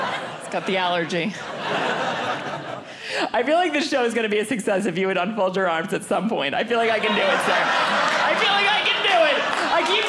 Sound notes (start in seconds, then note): 2.0 audience laughing